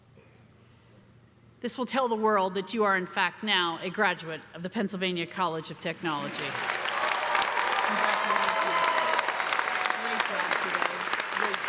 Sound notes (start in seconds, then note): 6.2 cheers and applause